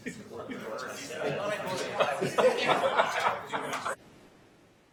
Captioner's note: laughing